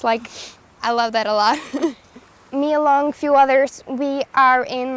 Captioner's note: laughs